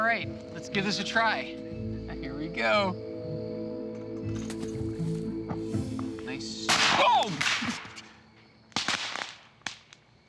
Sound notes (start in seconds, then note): 7.7 explosion